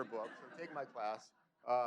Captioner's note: laughter